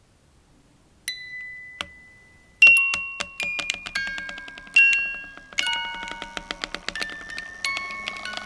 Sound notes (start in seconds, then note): 1.0 gentle tune; 1.0 doll clicks